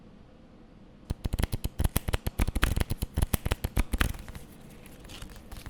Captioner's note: cards shuffling